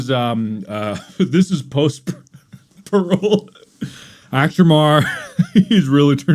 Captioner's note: laughs